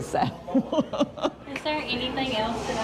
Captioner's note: laughing